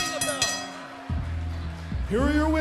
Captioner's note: bell ringing